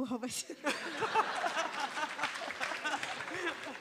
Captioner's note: Extended laughter